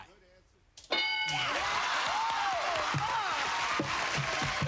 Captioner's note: cheers and applause